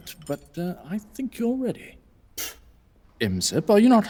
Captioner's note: Imsep spits